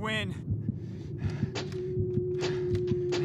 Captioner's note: breathing heavily